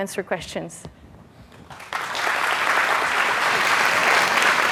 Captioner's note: applause